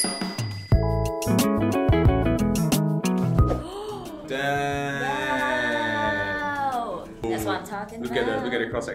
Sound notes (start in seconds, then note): 3.6 gasp